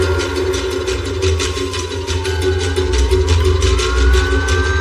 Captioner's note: police sirerens blaringng